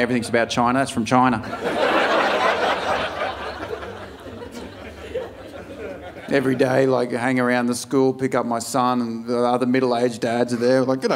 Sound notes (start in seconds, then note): 1.4 audience laughing